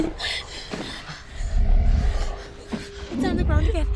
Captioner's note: panting; swooshing stops